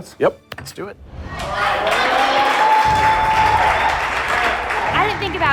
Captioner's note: cheers and applause